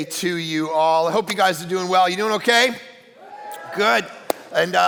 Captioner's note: audience cheering